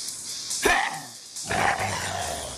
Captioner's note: growling